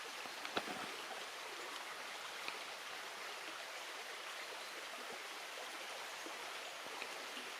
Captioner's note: water sounds